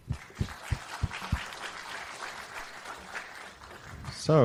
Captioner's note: applause